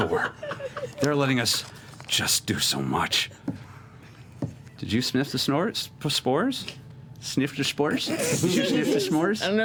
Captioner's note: mispronouncing